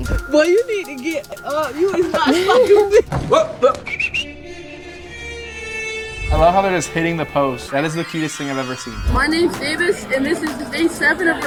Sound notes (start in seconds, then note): 3.7 whistling